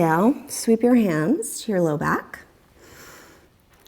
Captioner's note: deep breathing sounds